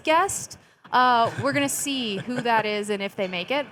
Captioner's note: chuckling